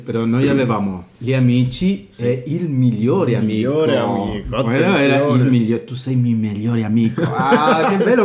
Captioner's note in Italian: risate